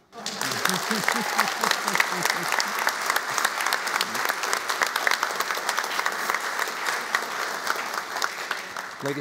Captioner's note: applauding